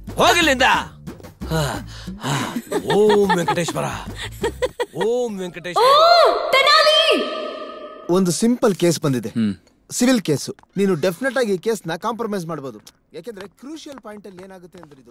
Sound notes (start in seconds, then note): 4.9 laughs